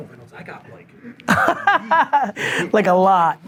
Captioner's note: laughs